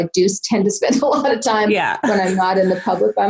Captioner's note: laughs